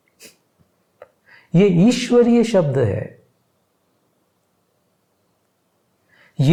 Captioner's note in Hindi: नाक से की जाने वाली आवाज़